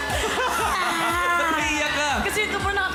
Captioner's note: robi giggles; melai fake cries